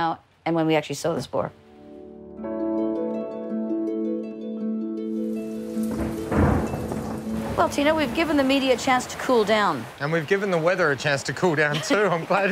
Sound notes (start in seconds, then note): 9.0 rain patters; 9.0 thunder rumbles